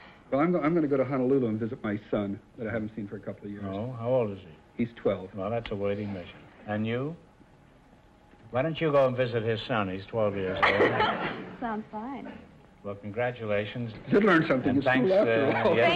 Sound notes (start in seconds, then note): 10.5 laughing